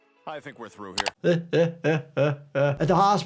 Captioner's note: laughs